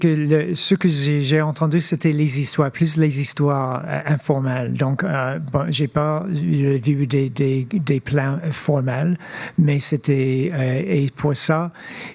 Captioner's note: speaking French